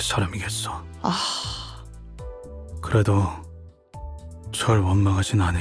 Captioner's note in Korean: 한숨